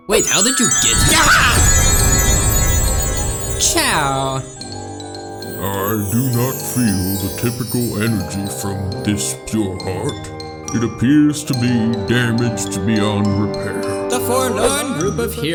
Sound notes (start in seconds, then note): 1.0 agent l screams